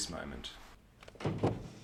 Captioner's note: sound of door closing